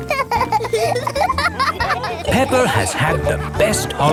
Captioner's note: laughing